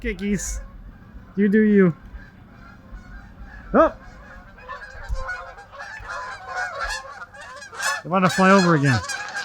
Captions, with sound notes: Okay, geese, you do you. Oh! (geese honking) They wanted to fly over again.